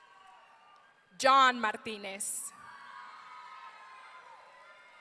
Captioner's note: audience cheering